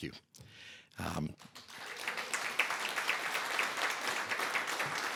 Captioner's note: applause